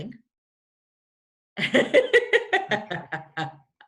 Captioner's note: laughs